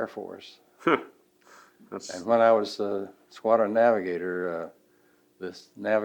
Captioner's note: laughs